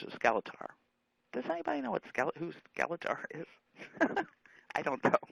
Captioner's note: laughing